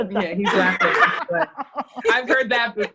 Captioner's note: laughs